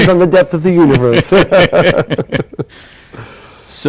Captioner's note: laughter